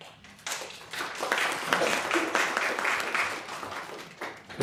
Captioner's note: applause